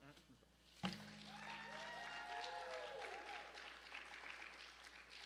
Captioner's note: cheers and applause